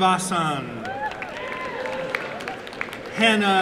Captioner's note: applause and cheering